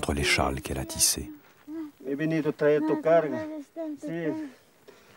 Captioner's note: quechua spoken audio